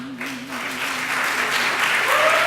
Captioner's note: applause